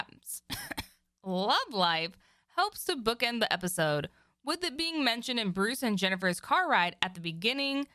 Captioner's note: cough